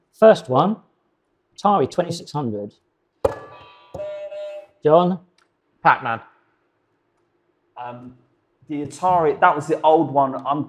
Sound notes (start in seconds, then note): 3.9 buzzer beeping